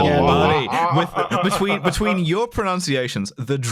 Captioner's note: laughs